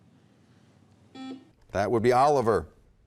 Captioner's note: beep